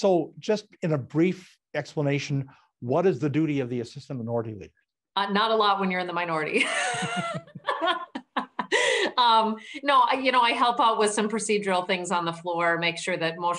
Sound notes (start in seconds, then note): 6.6 laughing